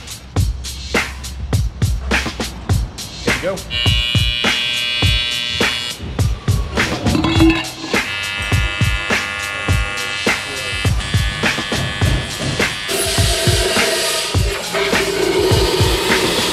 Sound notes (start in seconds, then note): 3.9 welding noise; 12.8 high pressure hose